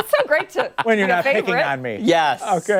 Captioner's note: laughter